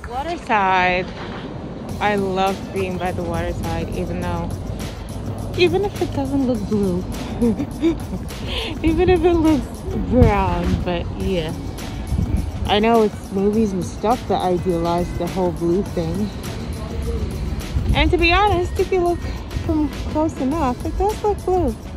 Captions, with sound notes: Water side! I love being by the water side, even though... Even if it doesn't look blue. *giggles* Even if it looks brown but yeah. I know it's movies and stuff that idealize the whole blue thing. And to be honest, if you look from close enough, it does look blue.